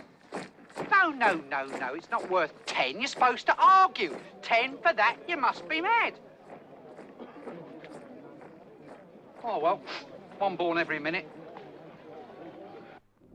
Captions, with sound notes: No, no, no, no. It's not worth ten. You're supposed to argue, 'Ten for that? You must be mad!' Ohh, well. [sniff] One born every minute.